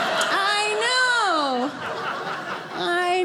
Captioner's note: audience laughing